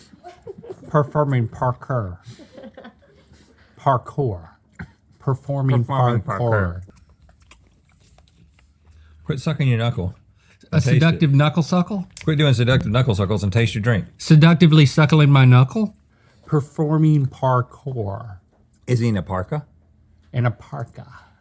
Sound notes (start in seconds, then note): 2.2 laughter; 6.9 knuckle suckle sounds